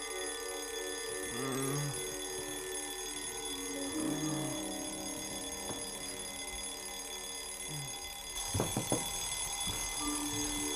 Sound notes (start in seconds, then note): 1.7 ringing continues; 7.4 ringing continues